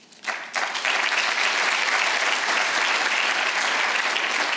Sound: audience applauds

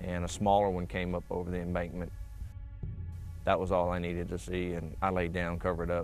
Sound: none

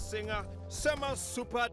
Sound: none

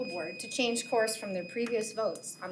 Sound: timer beeps

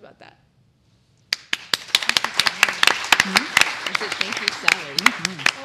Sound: applause

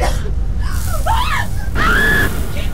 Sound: Kelly screaming; dramatic music

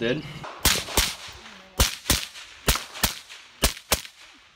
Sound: gun firing

